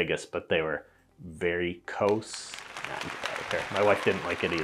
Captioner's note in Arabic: الجمهور المزيف يصفق